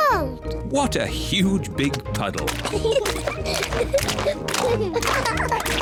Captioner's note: both giggling